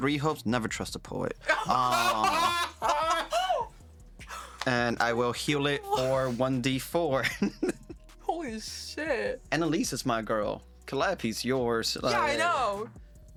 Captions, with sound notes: of either you or her or both of you falling off. Hey! (laughing) I'll hold onto it. I will be their seatbelt. I'll take another chunk at the demon.